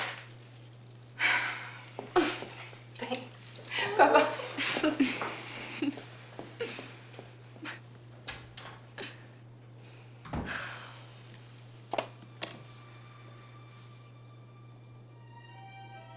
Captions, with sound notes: Thanks, bye-bye. (chuckling) (door opening and closing) (soft suspenseful music)